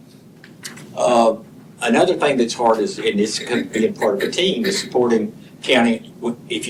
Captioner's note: clears throat